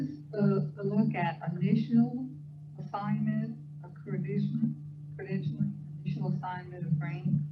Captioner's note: speaker off microphone